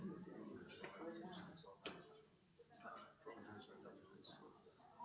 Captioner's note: audience murmuring